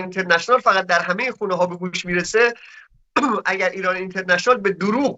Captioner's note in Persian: گلویش را صاف می‌کند